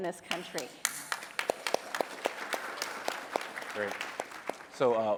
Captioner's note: applause